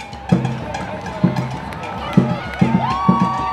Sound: drums beating; cheering

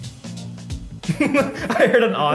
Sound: laughs

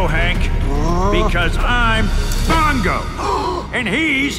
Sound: Hank gasps

